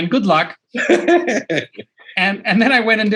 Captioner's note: laughs